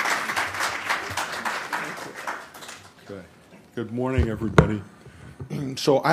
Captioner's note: applause